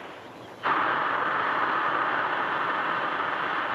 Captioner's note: air hisses